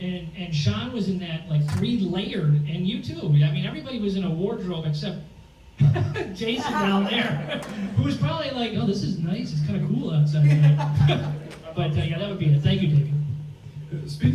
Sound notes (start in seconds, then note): 5.8 laughs